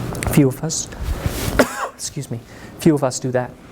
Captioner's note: coughs